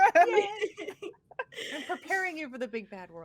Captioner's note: everyone laughs